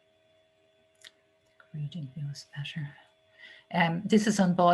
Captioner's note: quiet muttering